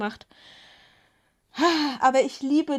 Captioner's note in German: seufzt